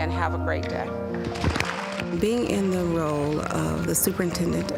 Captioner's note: applause